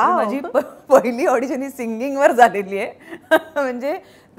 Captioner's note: Chuckles